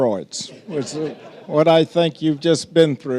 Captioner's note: audience laughing